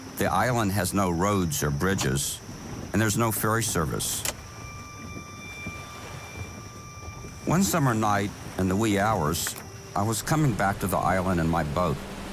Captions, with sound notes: The island has no roads or bridges and there's no ferry service. (switch clicking) (pensive music) One summer night, in the wee hours, I was coming back to the island in my boat.